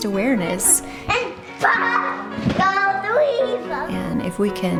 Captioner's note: children talking